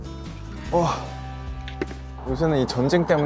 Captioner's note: noises of a 30-something ahjussi